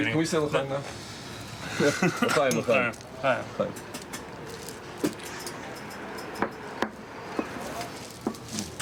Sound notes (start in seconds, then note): 1.7 all chuckling; 2.6 speaking in foreign language